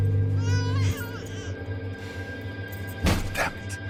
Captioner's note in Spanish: Llanto del bebé